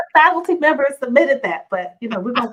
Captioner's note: laughs